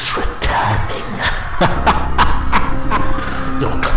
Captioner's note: laughter